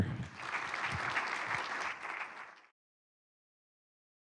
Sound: applause

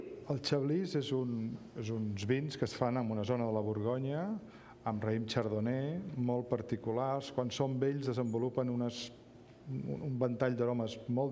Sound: speaking catalan

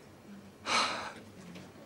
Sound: sighs

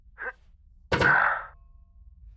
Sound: Kev sighs. Floorboards clanging; Kev panting

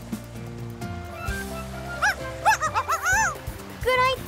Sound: barking

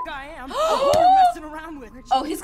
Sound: all gasping

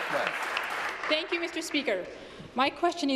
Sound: applause

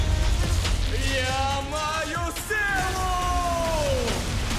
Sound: yells

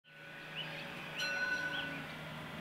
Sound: bell ring

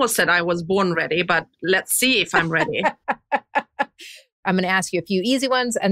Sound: laughs

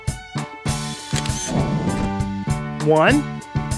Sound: SFX: Camera Shutter

